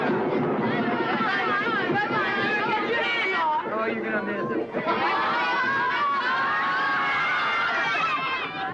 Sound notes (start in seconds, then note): 4.2 children yelling